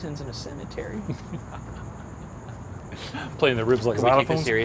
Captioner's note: laughing